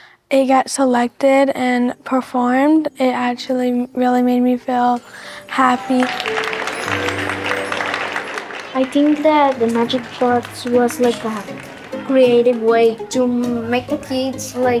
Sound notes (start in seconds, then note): 6.4 applause